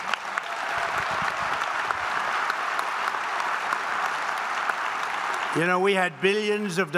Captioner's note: applause